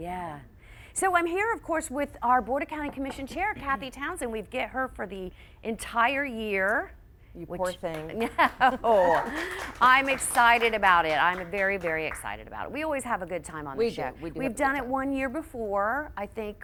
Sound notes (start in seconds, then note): 8.6 audience cheers and applauds; 10.9 laughs